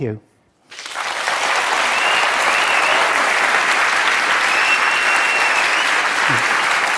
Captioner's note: applause